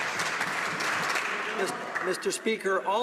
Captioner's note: some Applause